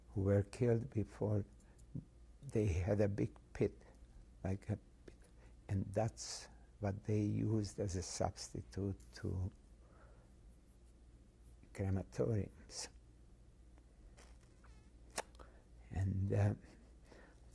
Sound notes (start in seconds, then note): 12.5 pauses for 3 seconds